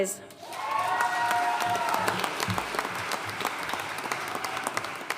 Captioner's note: audience cheering and applauding